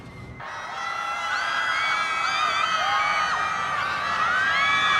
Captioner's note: crowd cheers